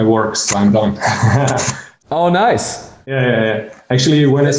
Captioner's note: man laughs